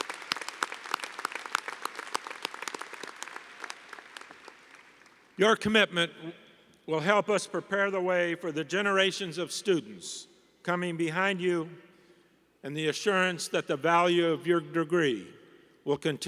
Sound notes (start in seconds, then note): 0.0 applause